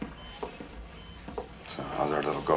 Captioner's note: beeping